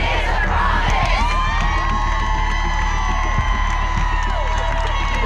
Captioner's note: cheering